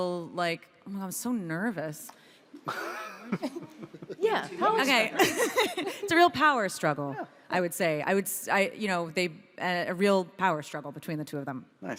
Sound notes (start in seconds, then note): 2.6 panel laughs; 5.1 laughs